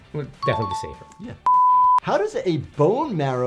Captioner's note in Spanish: pitidos de transmisión